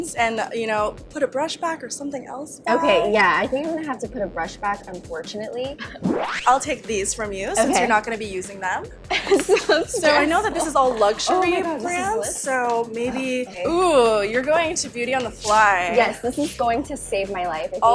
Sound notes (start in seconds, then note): 10.0 laughs